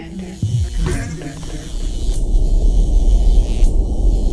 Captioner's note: device buzzing